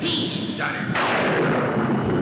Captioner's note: thunder crashes